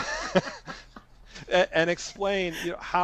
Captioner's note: laughter